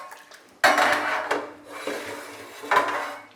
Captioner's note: metallic banging and clattering